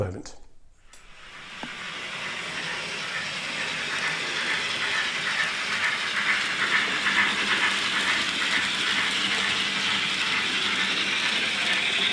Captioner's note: sound of Steam Locomotive